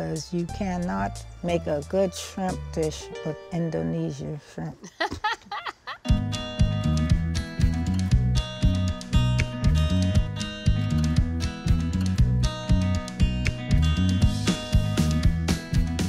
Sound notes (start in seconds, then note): 4.8 laughs; 6.9 upbeat music